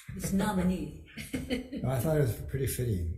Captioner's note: chuckling